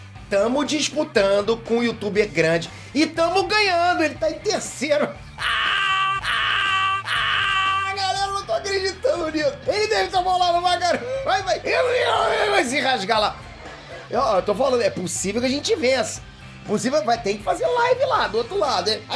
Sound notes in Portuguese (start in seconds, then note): 5.2 gritando